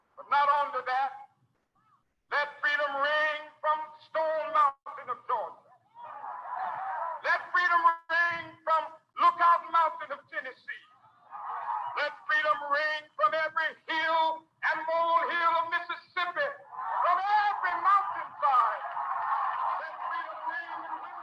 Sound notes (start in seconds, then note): 6.0 audience cheering